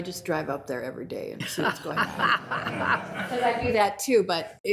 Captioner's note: group laughs